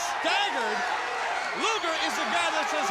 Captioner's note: crowd cheering